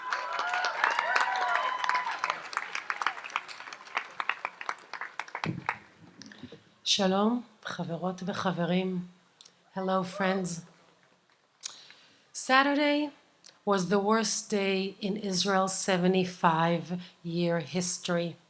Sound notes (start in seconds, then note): 0.0 audience applauds and cheers; 7.3 speaks in Hebrew